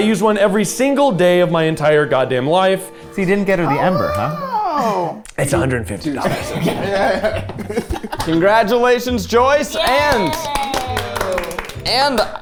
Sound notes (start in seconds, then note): 6.1 group laughing